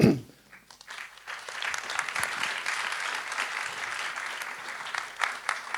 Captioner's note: applause